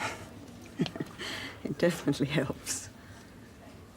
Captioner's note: chuckles